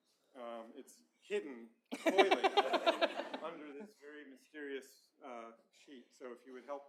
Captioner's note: laughter